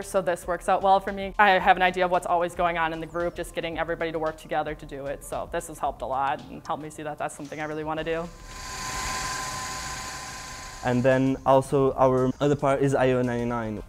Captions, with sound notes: so this works out well for me. I have an idea of what's always going on in the group, just getting everybody to work together to do it. So this has helped a lot, and helped me see that that's something I really want to do. (whirring) - And then, also, our other part is IO 99,